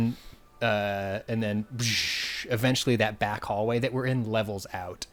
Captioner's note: blows air